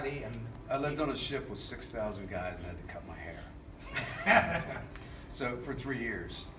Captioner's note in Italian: ridendo